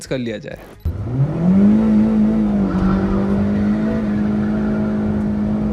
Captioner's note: car revs